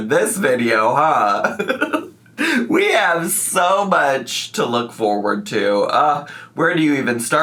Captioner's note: laughs